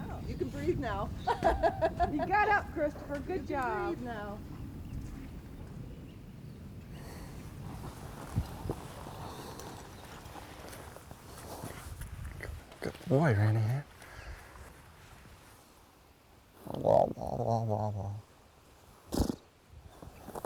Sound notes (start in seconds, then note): 1.2 laughs